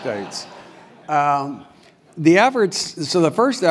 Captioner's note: laugh